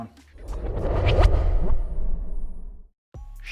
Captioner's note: transition whooshes; upbeat music